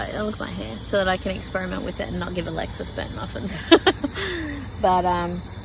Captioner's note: laughs